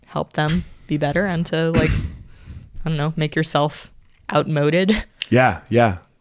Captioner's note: laughs